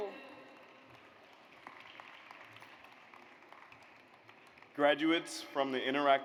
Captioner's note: audience applauds